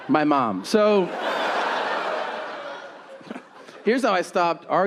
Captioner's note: audience laughing